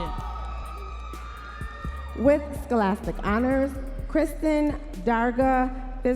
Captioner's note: audience members cheering